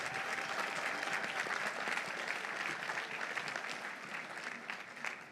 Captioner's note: audience applauding